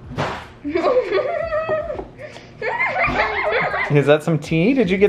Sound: child laughs

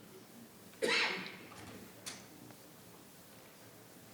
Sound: coughing

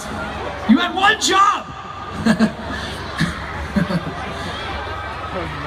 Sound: laughs

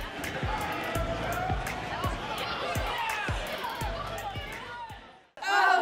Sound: crowd talking and children yelling

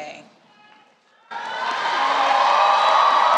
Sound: cheering, music

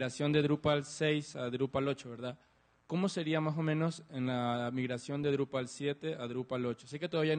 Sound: Spanish

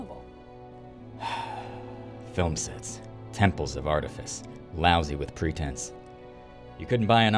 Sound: sigh

